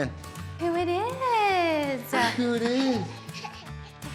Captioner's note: giggling